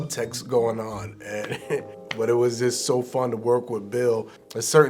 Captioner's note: chuckles